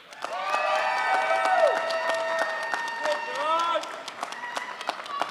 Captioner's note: crowd applauds